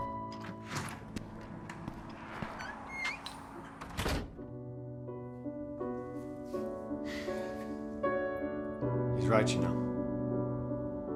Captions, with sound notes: (door closes) (gentle music) - He's right, you know.